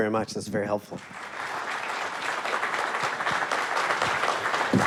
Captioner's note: audience applauds